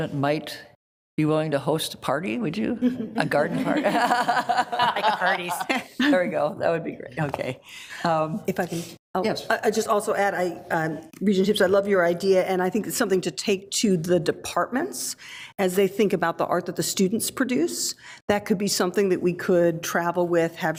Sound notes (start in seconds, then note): 3.6 laughs